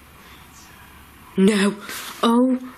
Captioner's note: voice whispering